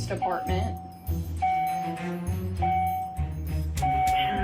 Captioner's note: door ajar bell chiming